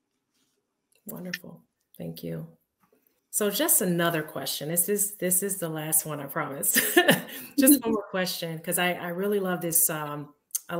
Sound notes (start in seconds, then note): 6.8 chuckling